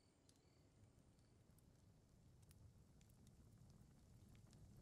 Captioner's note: fire crackling